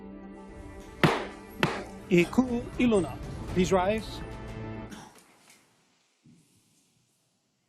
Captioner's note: gavel bangs twice